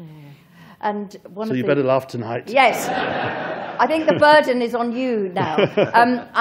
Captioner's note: laughter